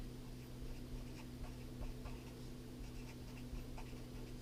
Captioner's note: pen scratching